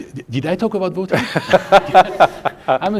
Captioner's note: laughing